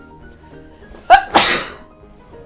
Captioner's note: sneeze